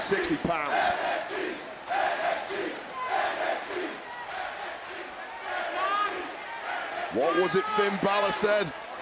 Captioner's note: crowd chants "nxt"